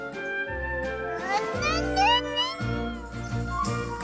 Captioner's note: giggle